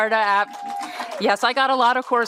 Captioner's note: applause